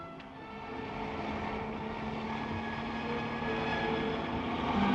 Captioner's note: engine rumbles